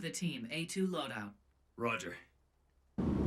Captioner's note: over comms